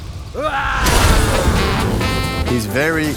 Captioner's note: yells playfully